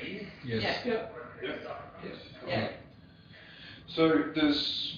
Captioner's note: audio distorts